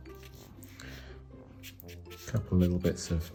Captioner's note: pen scratching